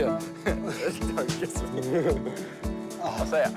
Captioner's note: chuckles; laughs